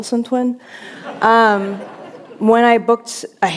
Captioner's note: laughter